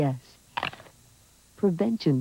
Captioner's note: crunch